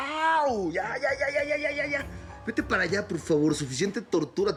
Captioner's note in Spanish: quejidos